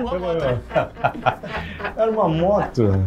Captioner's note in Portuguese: risadas